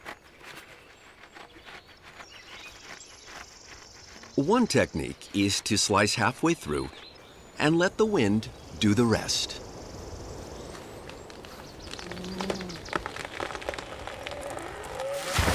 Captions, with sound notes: One technique is to slice halfway through and let the wind do the rest. (wind blows) (wood creaking)